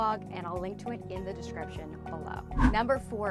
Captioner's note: air whooshes